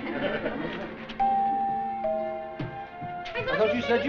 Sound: doorbell sounds

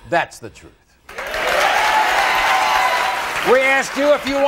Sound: audience applauding

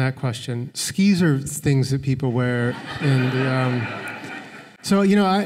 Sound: laughter

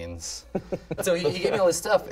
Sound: men laughing

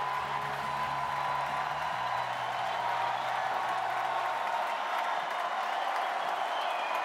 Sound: applause

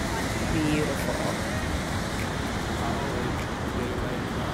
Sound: waves roaring; chill hip hop music

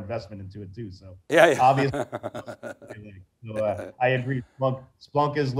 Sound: laughing

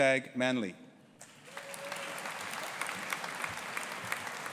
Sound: audience cheering

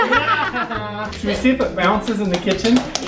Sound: laughing

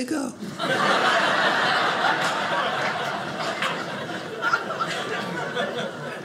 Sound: audience laughing

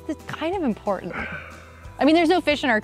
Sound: sighs

